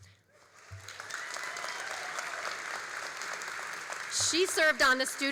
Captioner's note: all applauding and cheering